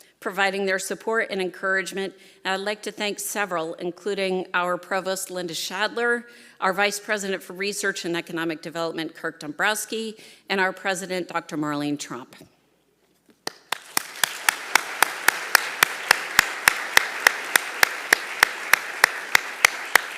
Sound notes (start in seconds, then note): 13.5 applauding; 13.5 audience applauding